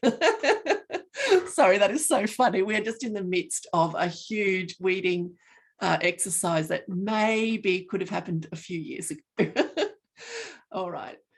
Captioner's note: laughing; laughing